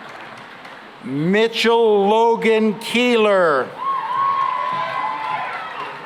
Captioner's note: cheering and applause